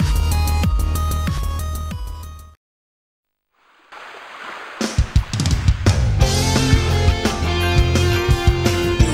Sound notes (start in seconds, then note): 3.5 water splashing; 4.8 upbeat music